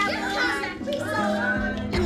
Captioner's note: indistinct chattering